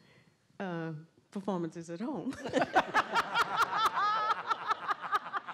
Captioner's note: laughter